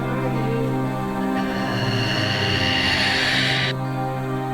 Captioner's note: growling